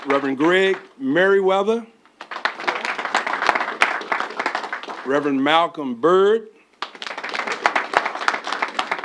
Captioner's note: applause